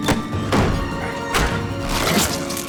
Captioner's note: Paul screams; intense music; body thuds; flesh squelching; fist thuds